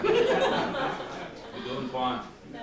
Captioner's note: laughter